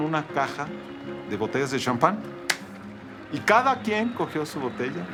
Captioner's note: claps